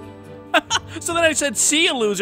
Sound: upbeat music; laughs

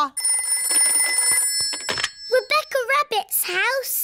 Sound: phone rings

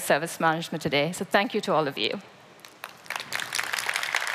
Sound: applause

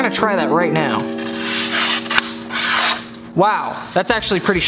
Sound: paper tears

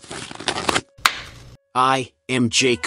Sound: pop

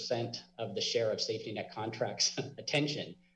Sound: chuckles

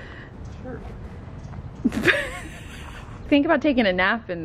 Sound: laughs

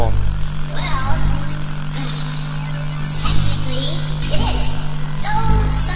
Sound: sighing

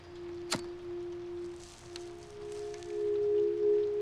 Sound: lighter clicks

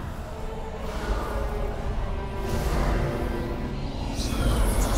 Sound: ghostly whispering; ghostly whispering grows louder

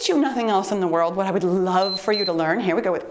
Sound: timer beeps

